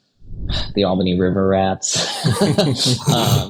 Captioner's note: laughs